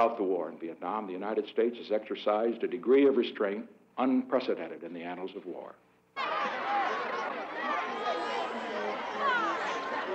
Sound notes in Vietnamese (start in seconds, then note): 6.2 Đám đông bàn tán